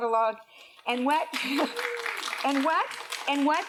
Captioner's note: applause